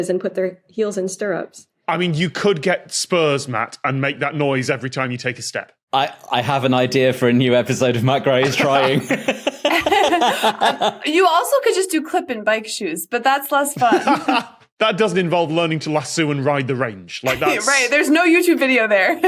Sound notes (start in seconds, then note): 7.8 group laughing; 13.7 laugh